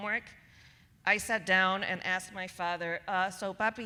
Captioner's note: speaking Spanish